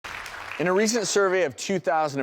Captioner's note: applause